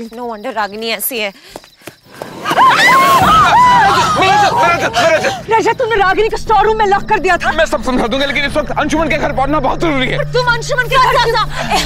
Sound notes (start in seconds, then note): 2.2 screams